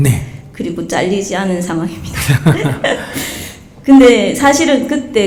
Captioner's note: Sunim Laughter